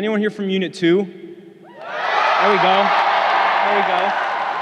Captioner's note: crowd cheering